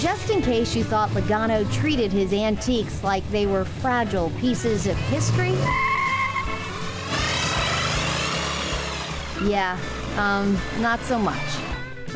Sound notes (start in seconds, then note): 6.0 car accelerating